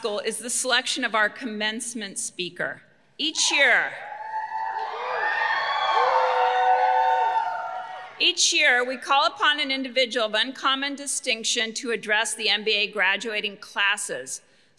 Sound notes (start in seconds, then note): 4.0 graduates cheering